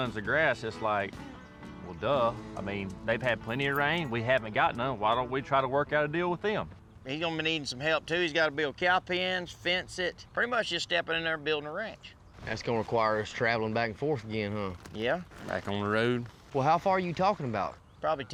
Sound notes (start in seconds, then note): none